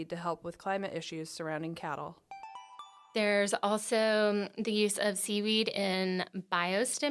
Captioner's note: chime